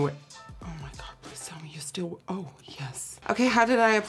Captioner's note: whispers